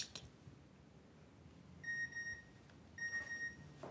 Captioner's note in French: Sonnerie